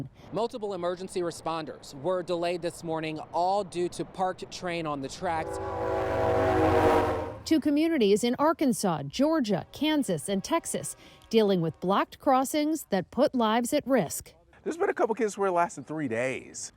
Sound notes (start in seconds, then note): 5.0 train horn blowing